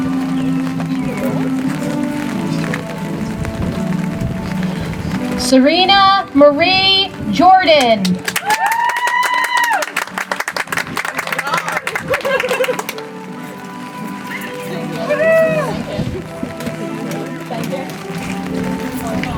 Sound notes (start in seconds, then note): 0.1 soft music; 11.4 audience applauds; 16.9 soft music